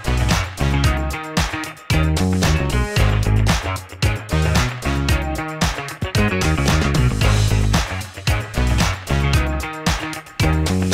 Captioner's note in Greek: χειροκρότημα